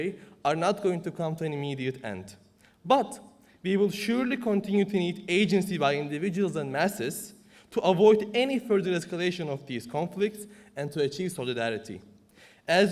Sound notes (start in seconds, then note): none